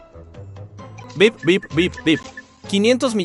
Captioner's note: beep, beep, beep, beep